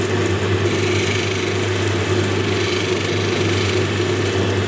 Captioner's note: machine whirring